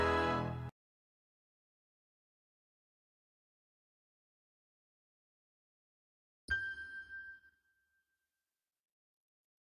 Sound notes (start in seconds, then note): 6.5 ding